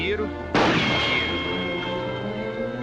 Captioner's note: gunshot